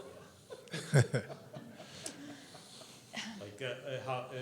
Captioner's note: all laughing